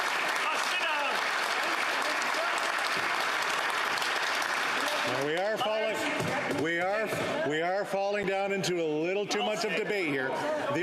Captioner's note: some Applause